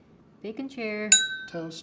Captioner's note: clinking sound